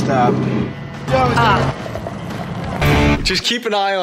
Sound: pissing noises and disgusted Oh

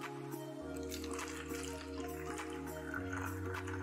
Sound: gentle music; water trickling

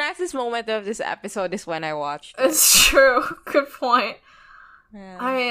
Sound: laughs

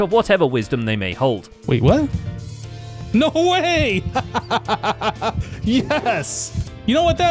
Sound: victorious laugh

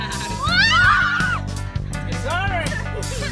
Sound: screams

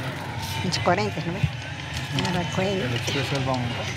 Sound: speaking in foreign language; driver speaking in foreign language

